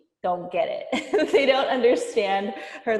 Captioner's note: laughing